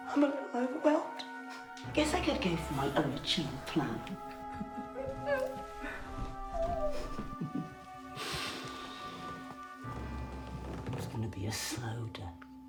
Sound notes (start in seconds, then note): 4.9 Faye laughing; 7.1 dramatic music